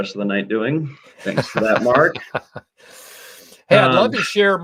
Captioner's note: laughter